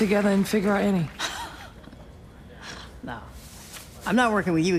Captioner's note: laughs